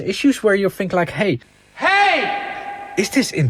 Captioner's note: ringing